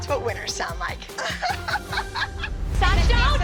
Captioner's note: annoying laugh